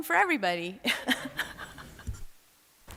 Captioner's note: laughter